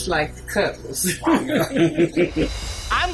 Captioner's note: both laugh